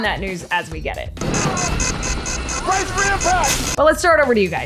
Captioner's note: plane roaring